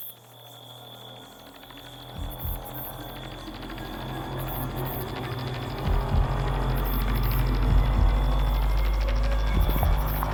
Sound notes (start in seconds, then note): 1.3 ominous music; 5.7 heartbeat thumps